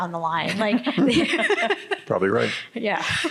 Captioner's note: panelists giggling